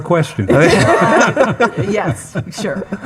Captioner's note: attendees laughing